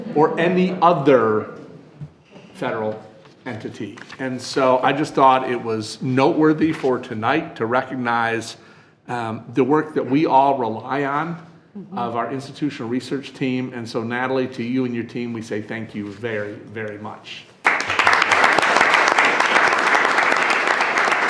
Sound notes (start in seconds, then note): 17.6 all clapping